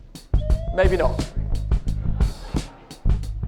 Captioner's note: crowd laughs